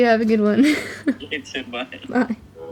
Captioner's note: chuckles